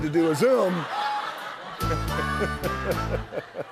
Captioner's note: laughter